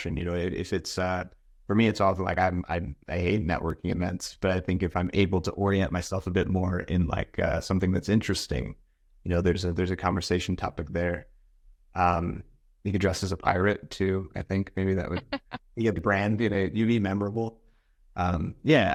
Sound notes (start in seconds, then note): 15.1 chuckling